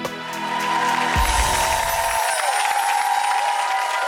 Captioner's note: audience cheers